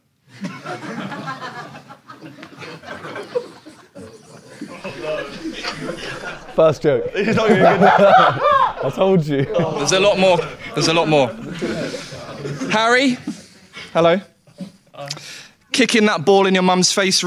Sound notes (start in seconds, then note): 0.3 audience laughs; 7.2 Sidemen laugh